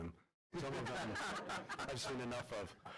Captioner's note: laughter